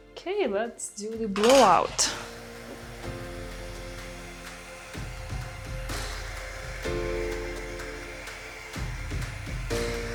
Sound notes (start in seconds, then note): 2.2 blow-dryer whirring; 2.8 bright music continues